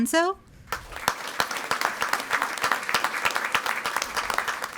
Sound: audience applauding

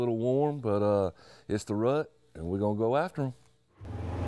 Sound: motor running

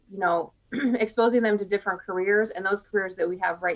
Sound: clears throat

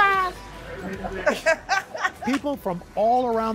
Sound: laughter

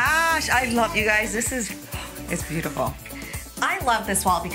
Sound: gasps

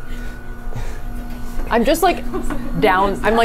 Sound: machine whirring continues

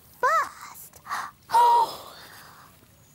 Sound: gasp!

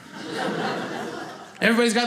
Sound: audience laughing

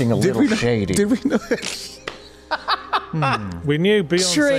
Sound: laughs

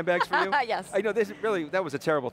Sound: laughing

